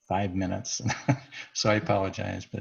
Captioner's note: laughs